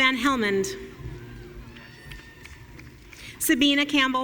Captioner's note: audience cheering